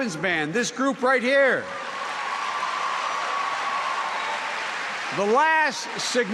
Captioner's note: applause